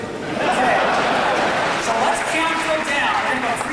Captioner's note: audience laughing